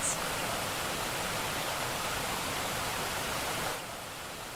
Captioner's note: water gushing